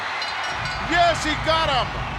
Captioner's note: bell rings